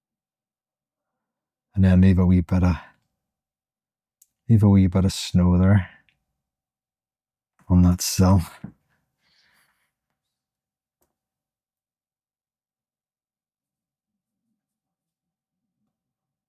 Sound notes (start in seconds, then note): 10.1 silence